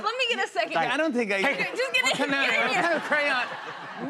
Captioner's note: laughter